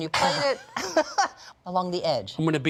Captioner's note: laughs